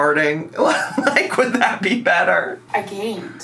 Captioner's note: laughs